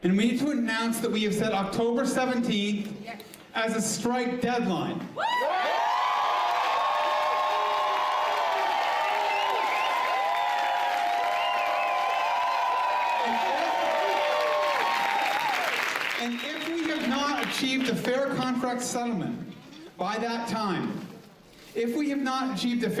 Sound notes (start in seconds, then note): 8.6 cheering